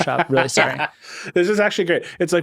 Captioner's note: laughing